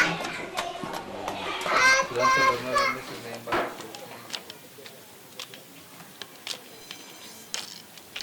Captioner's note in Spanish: ruido estudiantes